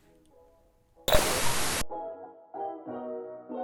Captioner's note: TV static fizzling